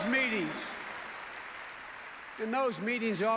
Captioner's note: applause